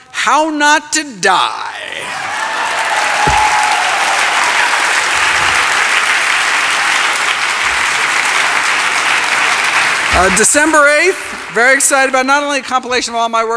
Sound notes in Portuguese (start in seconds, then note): 2.2 Aplausos